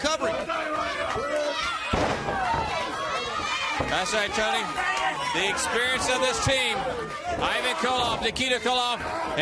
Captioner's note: crowd chatter